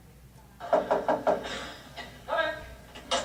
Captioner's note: knocks